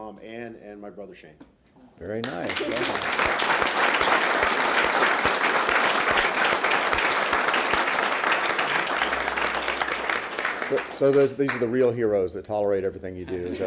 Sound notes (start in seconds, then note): 6.8 applause